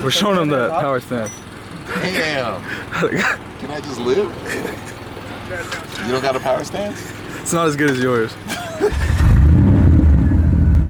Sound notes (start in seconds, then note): 2.8 laughs; 8.4 laughs; 8.9 engine revs